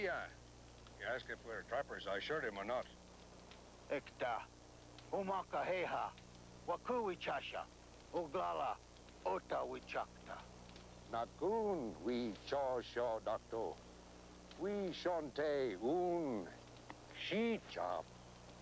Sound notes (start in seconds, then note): 3.2 speang Sioux